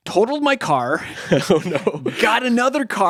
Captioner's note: chuckles